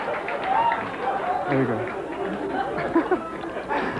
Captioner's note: laughter, light applause; laughs